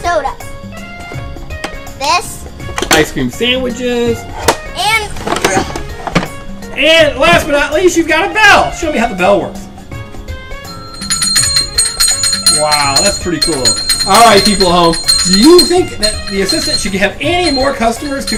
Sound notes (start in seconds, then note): 10.6 bell dings